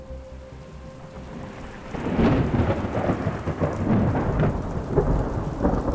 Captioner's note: raining and thundering